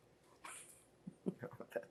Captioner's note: laughing